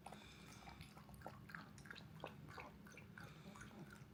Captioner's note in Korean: 물먹는 소리